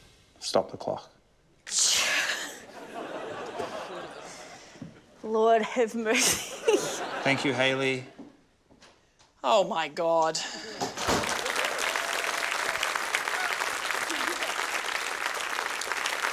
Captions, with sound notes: I've stopped the clock. - (EXHALES, CHUCKLES) Lord have mercy. (LAUGHS) - Thank you, Hayley. - Oh my God. (CHEERING, APPLAUSE)